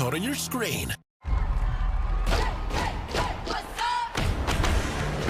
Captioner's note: crowd cheering